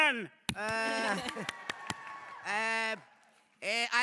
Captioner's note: cheers